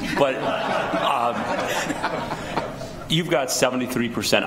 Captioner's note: people laughing